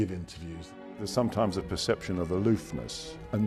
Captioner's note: voiceover